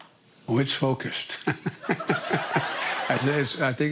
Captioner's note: laughs